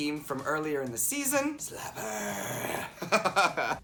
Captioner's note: growling